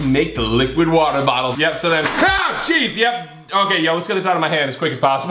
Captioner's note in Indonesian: jeritan